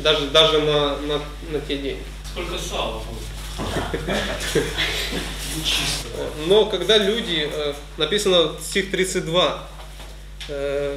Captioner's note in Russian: смеётся